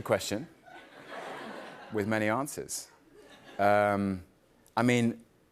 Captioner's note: light laughter